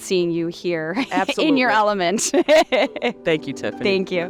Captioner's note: laughs